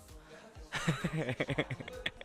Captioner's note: cute laughter again